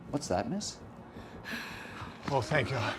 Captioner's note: Ashley gasps